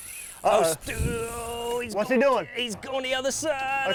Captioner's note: straining